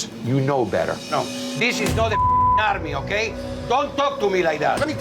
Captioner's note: beep